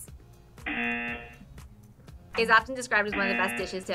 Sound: buzzer

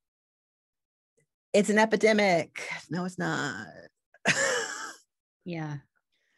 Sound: laughs

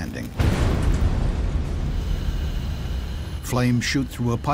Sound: explosion booms

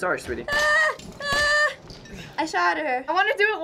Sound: whimpering

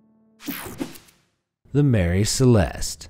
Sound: slide swooshing

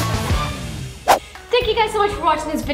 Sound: swooshing

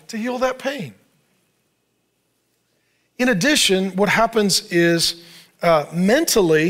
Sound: none

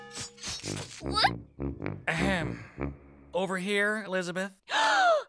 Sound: sobbing

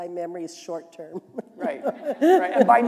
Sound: laughter

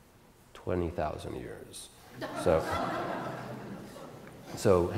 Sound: audience Laughter

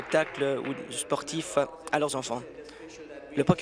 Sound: applause

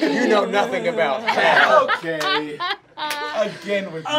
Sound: laughing

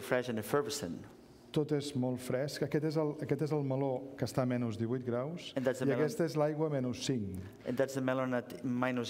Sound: speaking catalan

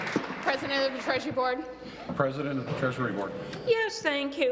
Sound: applause

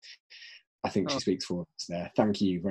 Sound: voice muffled

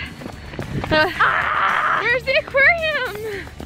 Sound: screaming

